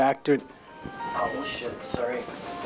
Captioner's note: phone rings